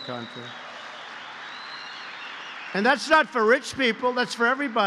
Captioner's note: applause